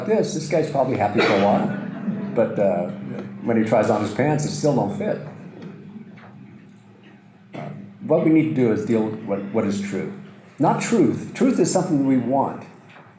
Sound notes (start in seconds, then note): 0.9 audience laughter